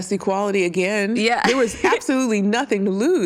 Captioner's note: giggles